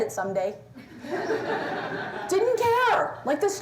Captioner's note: laughter